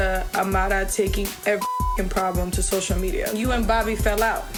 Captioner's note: beep